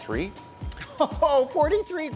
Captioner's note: laughing